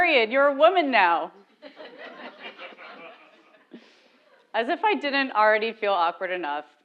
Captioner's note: laugh